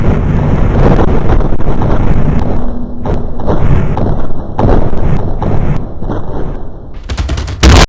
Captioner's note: bass boosted shuffling